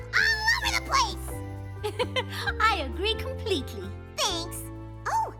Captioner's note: chuckle